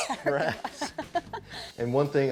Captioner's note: laughs